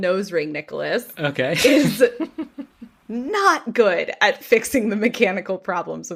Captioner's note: laughs